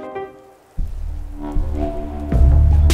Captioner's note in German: Dröhnen; Dynamische Musik